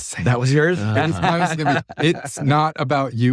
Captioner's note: laugh